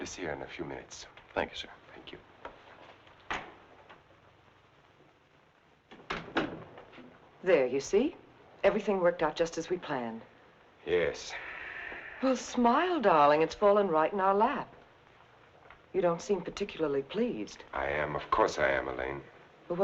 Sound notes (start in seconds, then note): 3.8 door rattling; 3.8 door slamming